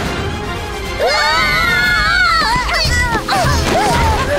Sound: all screaming

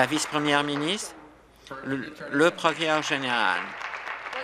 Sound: applause

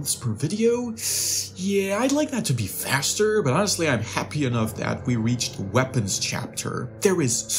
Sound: ssss

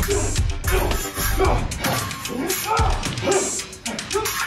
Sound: metal scrapes

